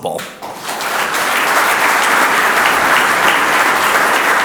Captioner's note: audience applauds